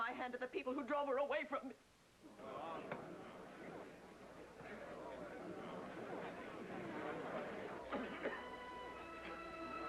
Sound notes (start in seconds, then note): 2.3 crowd murmuring